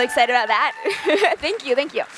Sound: cheers

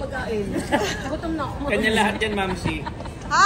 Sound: laughs

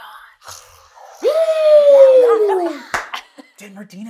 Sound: cheers

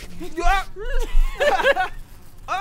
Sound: sobs

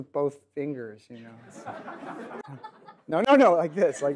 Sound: audience laughs

